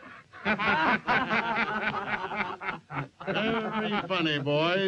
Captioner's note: all laughing